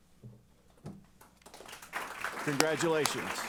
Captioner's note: applause